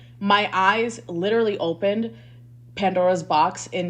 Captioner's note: none